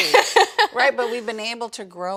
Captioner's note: laughs